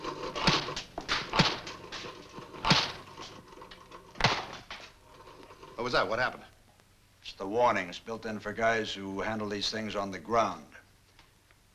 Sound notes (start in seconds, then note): 0.3 snapping